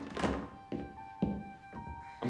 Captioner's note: door open close; footstep